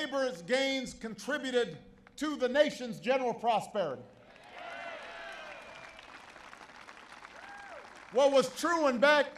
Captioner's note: applause